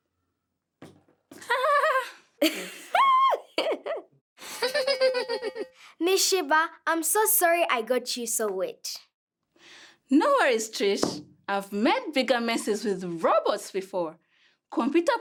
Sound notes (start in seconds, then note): 1.7 all giggling